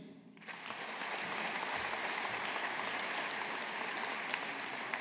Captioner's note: audience applauding